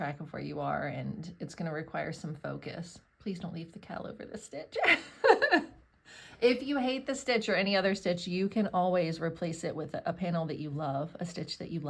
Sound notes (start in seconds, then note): 4.8 laughs